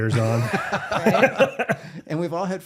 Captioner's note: laughing